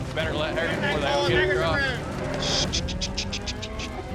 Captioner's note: all calling to cows